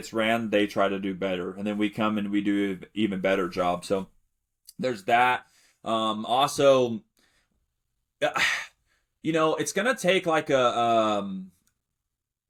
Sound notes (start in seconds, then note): 8.3 sighs